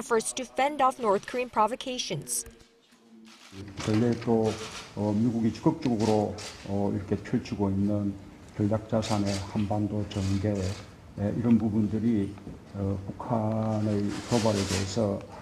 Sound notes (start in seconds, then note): 2.9 Korean